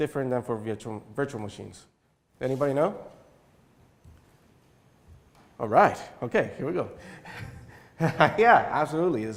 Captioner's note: chuckle